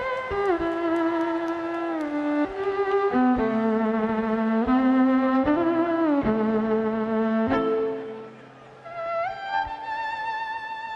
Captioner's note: crowd cheering